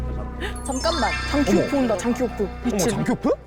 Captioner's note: headliner reveal sound effect; serious sound effect